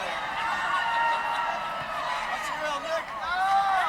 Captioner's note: crowd chattering